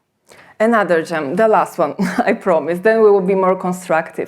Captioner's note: chuckles